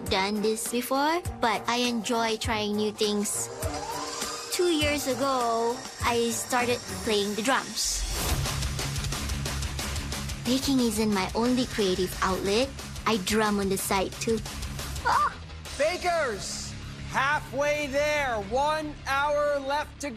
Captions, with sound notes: I've never done this before, but I enjoy trying new things. (Mixer whirs) Two years ago, I started playing the drums. (Rock music plays) Baking isn't my only creative outlet. I drum on the side, too. Ahh! - Bakers, halfway there!